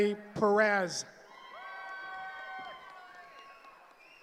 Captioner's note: cheering